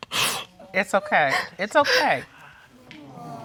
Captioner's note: sobbing